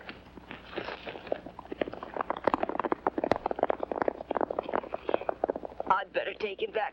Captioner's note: hooves pounding